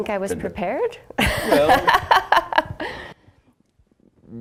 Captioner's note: laughing